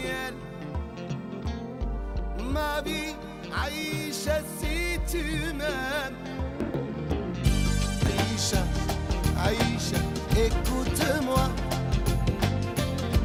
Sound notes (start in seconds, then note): 5.1 non-english; 10.6 non-english